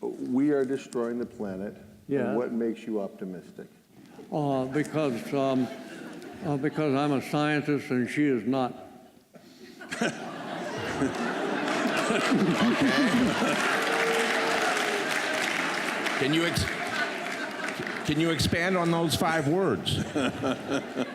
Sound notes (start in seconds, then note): 9.7 laughter; 10.8 applause